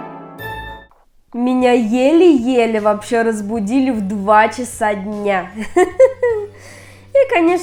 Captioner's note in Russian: смех